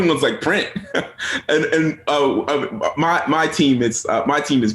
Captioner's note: chuckles